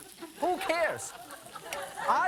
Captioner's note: audience laughing